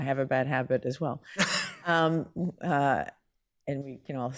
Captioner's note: laughing